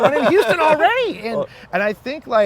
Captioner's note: güler